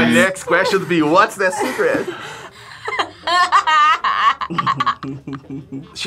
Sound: laughs

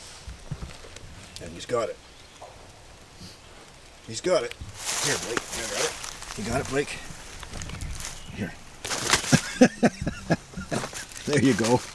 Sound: chuckle

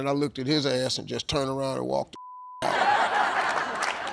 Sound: beep

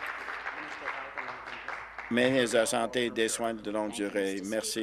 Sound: applause

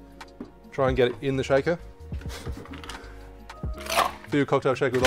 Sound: laughs

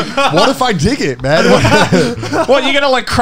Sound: laughing

